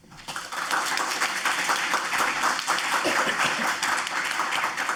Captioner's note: audience applauds